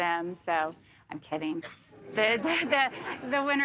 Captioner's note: audience murmurs